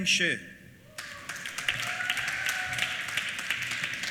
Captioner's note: applause